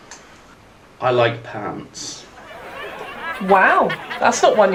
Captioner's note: audience laughing